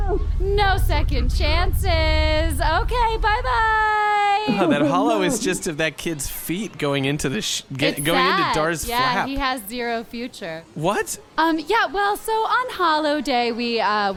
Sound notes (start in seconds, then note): 0.0 Jiminy is screaming from inside the flap; 0.6 voice distorts